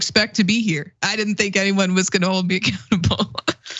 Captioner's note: laugh